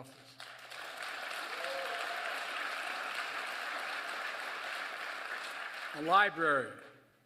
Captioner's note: applause